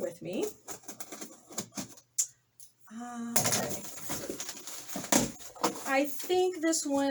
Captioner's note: ripping of box noise